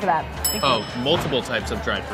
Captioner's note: bell dinging